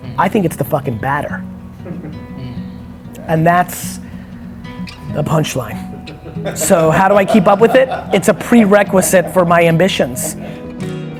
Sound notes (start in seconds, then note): 1.8 light laughter; 5.8 laughter